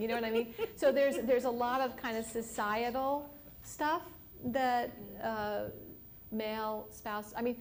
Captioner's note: laughter